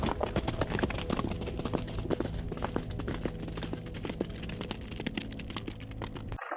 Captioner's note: horses galloping